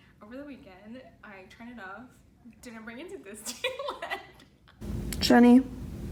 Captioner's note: laughs